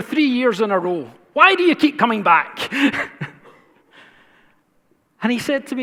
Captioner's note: laughs